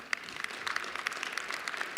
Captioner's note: applause